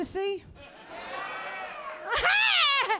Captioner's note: crowd